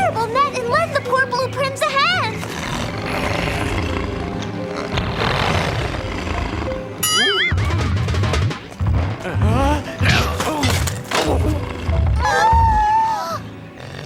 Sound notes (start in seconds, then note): 2.3 growling; 9.2 gasps; 10.1 smack